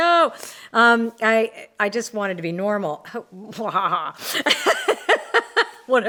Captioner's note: laughs